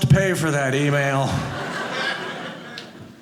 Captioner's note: audience laughing